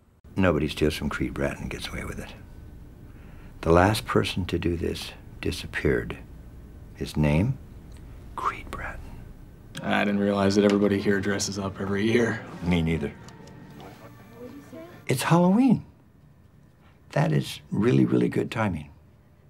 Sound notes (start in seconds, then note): 8.4 whispering